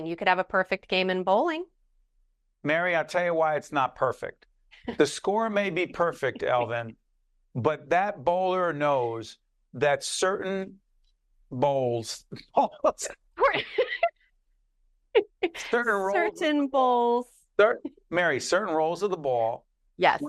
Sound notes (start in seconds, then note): 5.6 laughing; 13.4 laughing